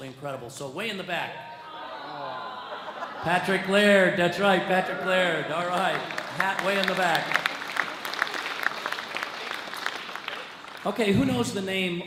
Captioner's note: audience cheers